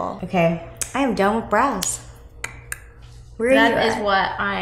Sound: clicks tongue

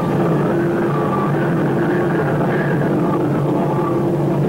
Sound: plane roaring

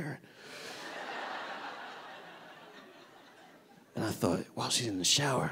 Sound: audience laughing

